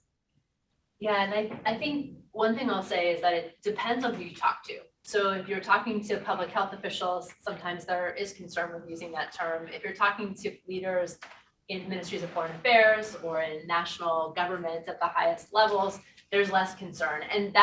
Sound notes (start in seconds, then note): none